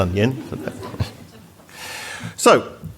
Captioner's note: audience Laughter